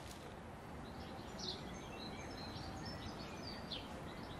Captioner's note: quiet birdsong